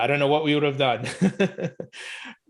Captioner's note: laughing; laughs